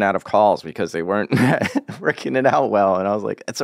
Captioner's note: laughs